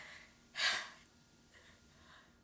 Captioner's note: sighs